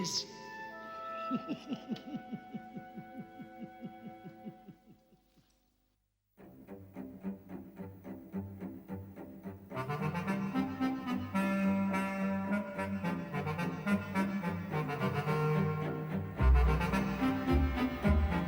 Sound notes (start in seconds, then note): 1.2 chuckling